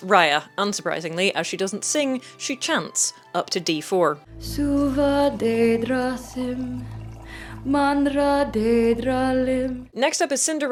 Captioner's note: chanting in imaginary language